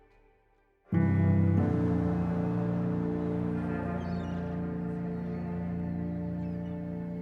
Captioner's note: soft solemn music; seagulls squawking